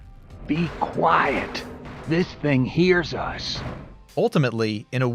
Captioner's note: whispering